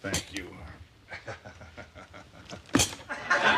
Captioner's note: chuckling